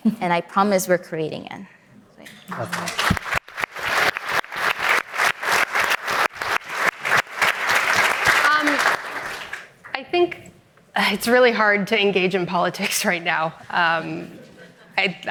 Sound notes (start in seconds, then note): 2.4 audience applauding